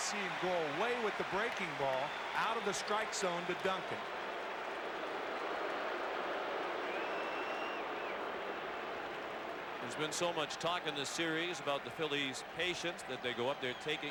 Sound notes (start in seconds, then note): 5.6 applause